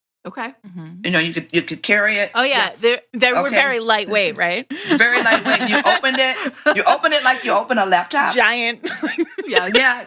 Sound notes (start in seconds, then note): 4.8 laughter; 8.8 giggles